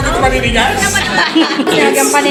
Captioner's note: laughs